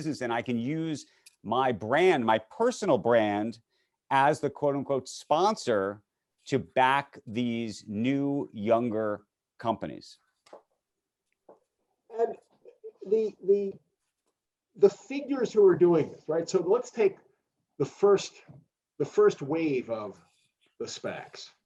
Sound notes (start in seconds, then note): none